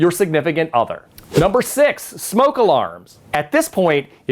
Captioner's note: letters whoosh